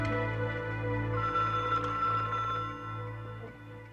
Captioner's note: telepon berdering